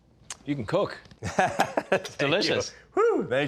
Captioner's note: laughs